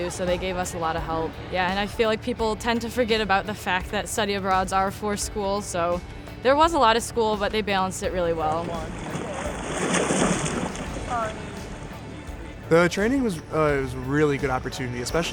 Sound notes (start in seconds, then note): 7.8 splashing